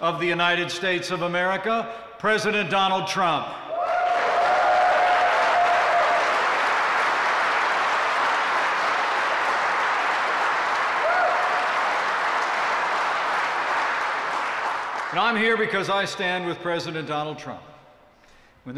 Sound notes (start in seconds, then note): 3.5 applause